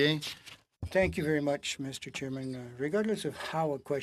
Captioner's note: speaking French